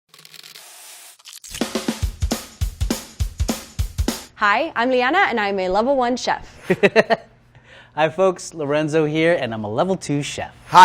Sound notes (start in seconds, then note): 0.1 food sizzling; 1.4 upbeat music; 6.7 laughs